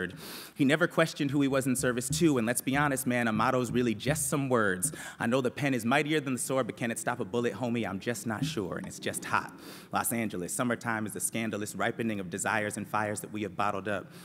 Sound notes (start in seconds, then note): none